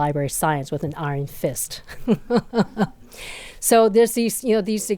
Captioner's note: laughs